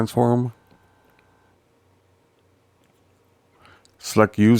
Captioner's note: silence